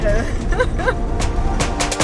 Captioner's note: laughing